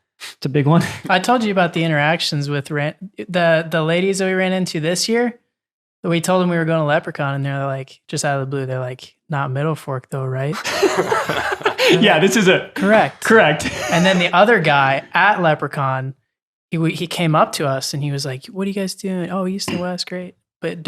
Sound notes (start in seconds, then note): 10.6 innocent laughing